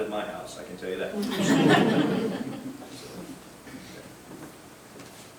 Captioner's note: group laughing